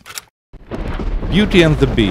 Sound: thunder crashes

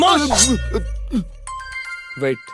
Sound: phone rings

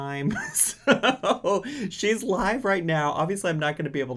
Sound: laughs

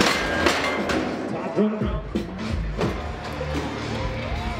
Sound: gate clanks

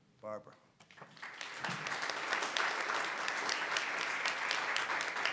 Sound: audience applauding

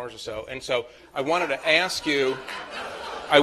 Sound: laughter

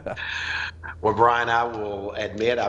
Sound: laughs

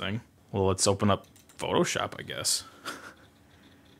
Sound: chuckles

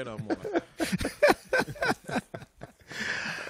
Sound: laughter

